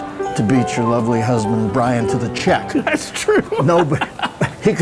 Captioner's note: laughs